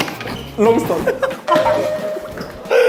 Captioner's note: uncontrollable laughter